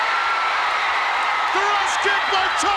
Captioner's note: audience cheers